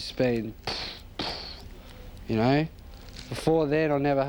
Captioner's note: makes gunshot sounds